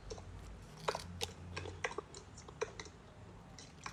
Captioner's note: cronch